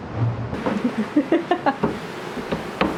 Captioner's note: laughing